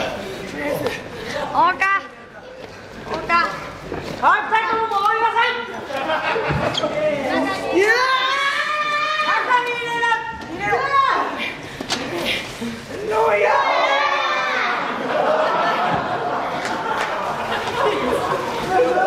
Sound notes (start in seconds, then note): 14.6 laughs